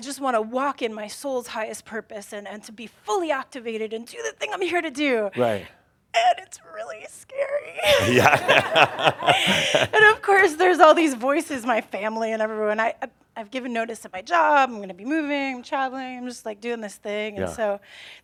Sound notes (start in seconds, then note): 7.8 laughter